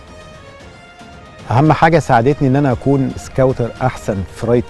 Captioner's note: in Arabic